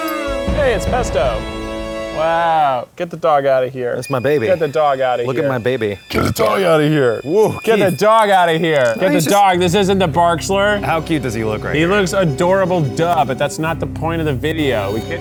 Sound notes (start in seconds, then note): 6.1 burping; 8.8 sinister music